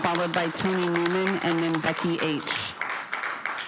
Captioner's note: cheering/Applause